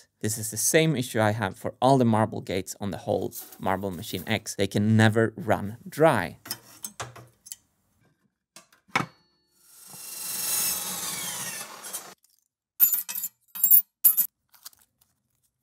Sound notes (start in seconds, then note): 9.6 chop-saw whining